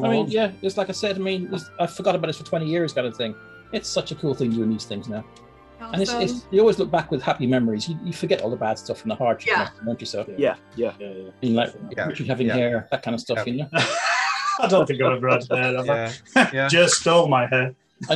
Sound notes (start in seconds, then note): 13.7 laughing